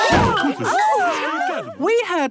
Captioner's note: all gasping